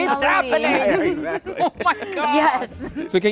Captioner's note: laughing